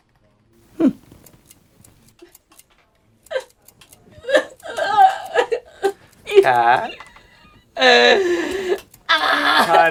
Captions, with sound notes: hmm *crying* Cat *louder crying* Honey